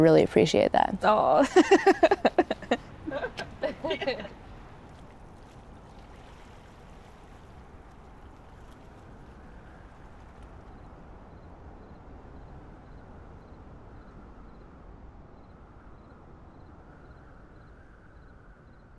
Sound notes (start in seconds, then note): 1.3 laughs; 5.5 water splashing; 11.2 crickets chirping; 16.1 wind howling